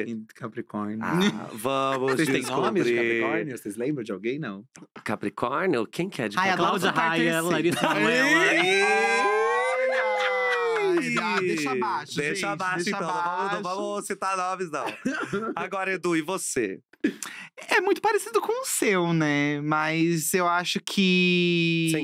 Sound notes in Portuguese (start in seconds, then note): 8.0 todos exclamam